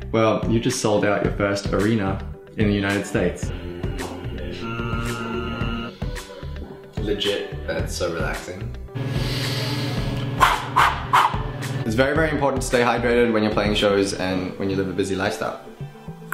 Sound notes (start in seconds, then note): 4.5 soothingly hums; 9.0 inhales; 9.1 exhales in puffs